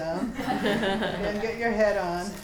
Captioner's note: students laughing